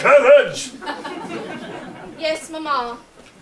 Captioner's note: audience laughs